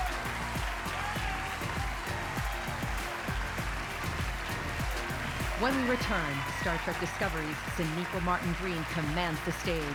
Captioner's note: cheers and applause